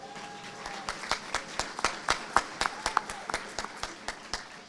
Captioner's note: audience applauding